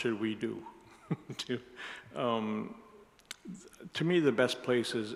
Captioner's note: laughs